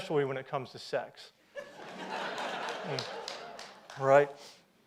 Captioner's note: audience laughs